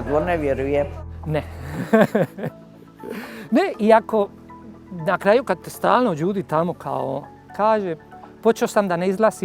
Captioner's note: laughter